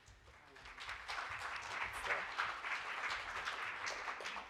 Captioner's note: audience applauds